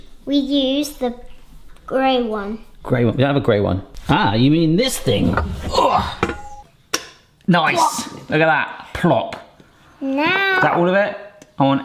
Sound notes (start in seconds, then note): 5.7 sighs; 8.0 butter plops